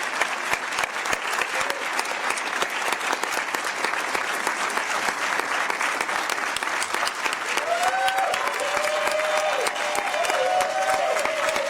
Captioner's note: applause; cheering